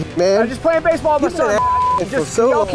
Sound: beep

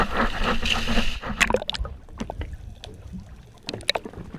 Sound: splash

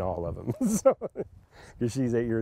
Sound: laughter

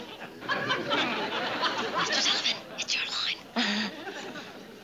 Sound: whispers

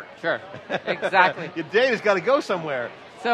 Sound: laughs

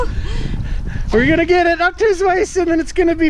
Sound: laughing

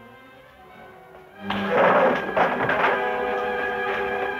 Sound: furniture clattering

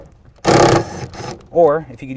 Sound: drill buzzing

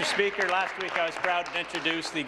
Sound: applause

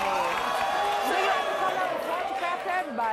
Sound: audience boos

